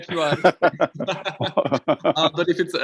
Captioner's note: all laughing